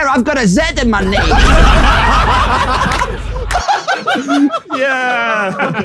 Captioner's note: people in room laughing